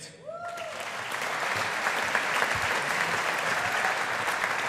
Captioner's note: audience applauding